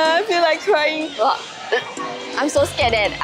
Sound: gagging

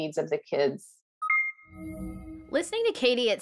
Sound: beeping

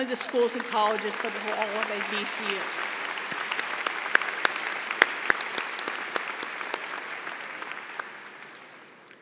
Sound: applause

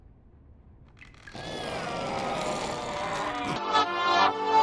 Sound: guttural moaning

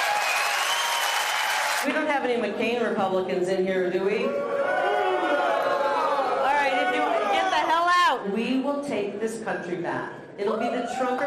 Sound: applause

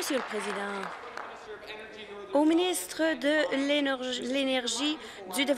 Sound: applause

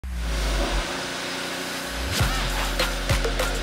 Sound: electronic whirring; electronic music

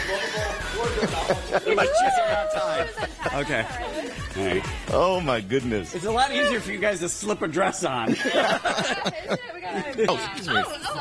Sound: laughter

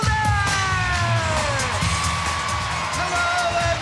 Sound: cheering

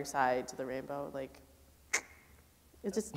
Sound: clicks tongue

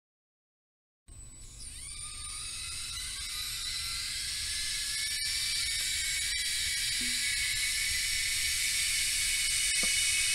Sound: electric kettle shriek

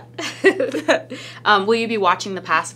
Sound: both laughing

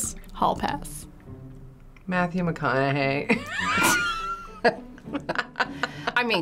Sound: laughing

